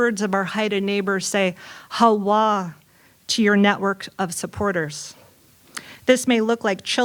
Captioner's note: non-english